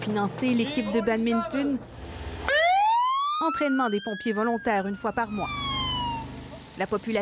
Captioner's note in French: sirène